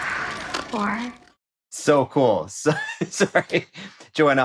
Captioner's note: laughs